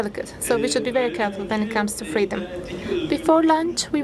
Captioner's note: speaking foreign language